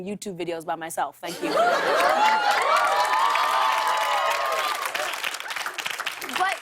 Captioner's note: cheers and applause